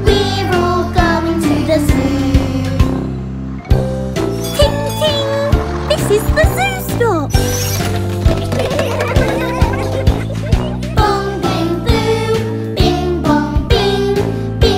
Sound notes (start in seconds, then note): 8.4 laughter; 10.3 singing